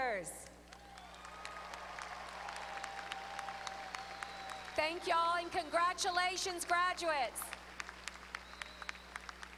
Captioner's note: applause